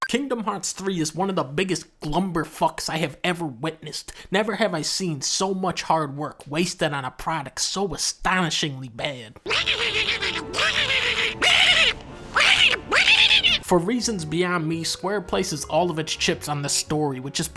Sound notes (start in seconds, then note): 9.4 Angry Donald Duck Sound